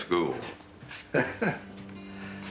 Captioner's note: Nick chuckling